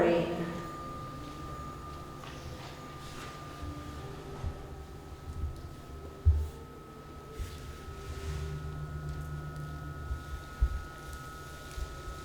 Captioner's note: high Pitch Whirring